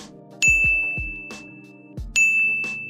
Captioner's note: ding